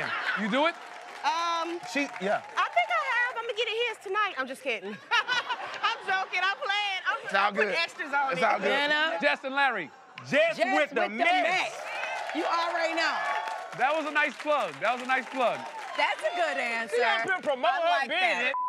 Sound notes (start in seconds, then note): 4.8 laughing; 13.3 cheering